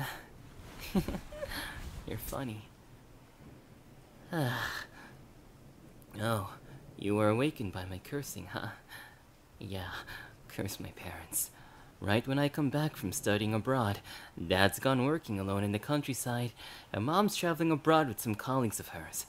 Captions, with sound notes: (laugh) You're funny. (sigh) Oh, you were awakened by my cursing, huh? Yeah, curse my parents. Right when I come back from studying abroad Dad's gone working alone in the countryside, and mom's travelling abroad with some colleagues of hers.